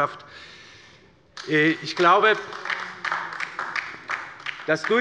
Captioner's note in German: Beifall bei der LINKEN